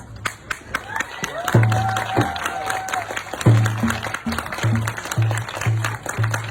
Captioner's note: audience applauding; audience cheering